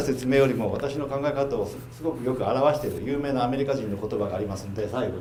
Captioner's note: speaking foreign language